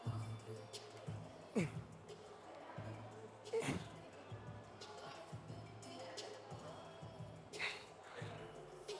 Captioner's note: grunting